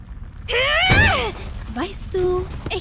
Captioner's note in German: Kampfgeräusche und so